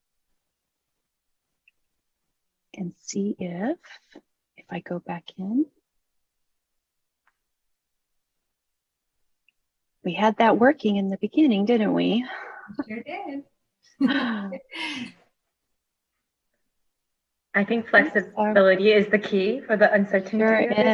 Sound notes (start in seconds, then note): 14.0 laughing